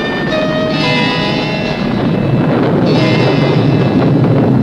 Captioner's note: ominous music; thunder rumbling